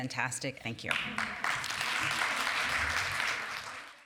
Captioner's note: applause